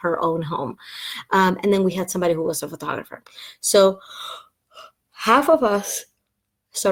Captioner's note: yawn